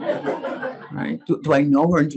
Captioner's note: audience laughing